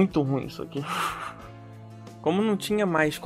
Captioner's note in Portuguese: risos